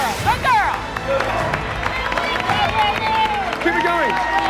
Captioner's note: cheers and applause